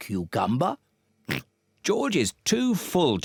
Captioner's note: oinks